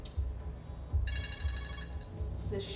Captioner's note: phone ringing